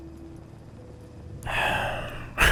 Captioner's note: sigh